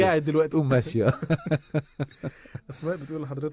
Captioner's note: laughter